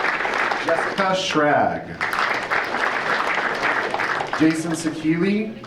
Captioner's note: audience applauding